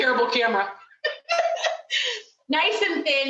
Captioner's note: laughing